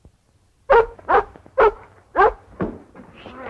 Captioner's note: barking